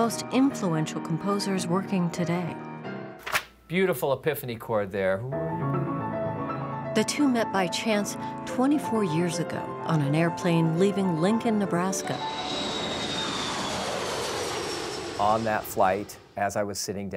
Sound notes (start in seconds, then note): 5.3 piano playing; 10.6 jet plane taking off